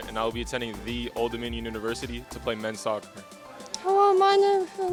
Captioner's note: none